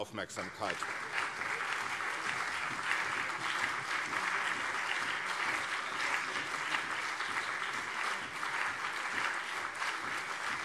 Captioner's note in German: Anhaltender Beifall CDU und SPD